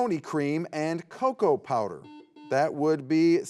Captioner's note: buzzer beeps